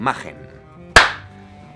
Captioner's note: clap